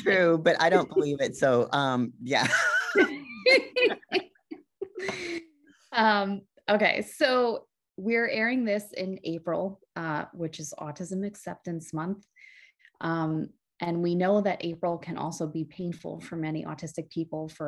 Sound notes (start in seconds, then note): 2.3 both laugh